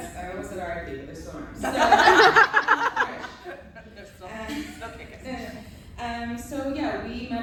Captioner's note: laughter